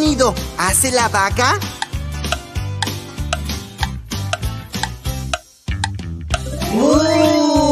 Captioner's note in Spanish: Sonido de reloj